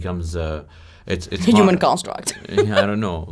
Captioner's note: laughs